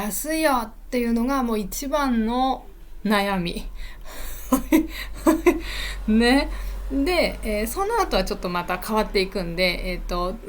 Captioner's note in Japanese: 笑い